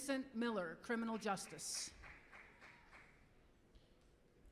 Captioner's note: applause